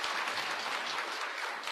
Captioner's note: applause